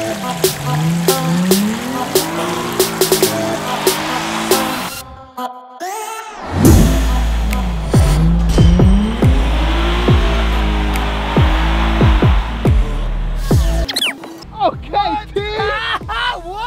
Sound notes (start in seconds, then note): 1.7 car engine revving